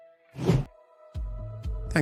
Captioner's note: whooshing sound